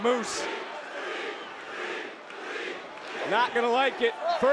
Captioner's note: crowd chanting